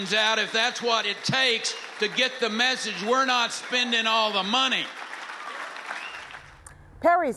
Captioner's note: cheering and applause